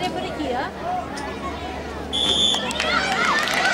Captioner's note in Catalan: La gent anima; Xiulet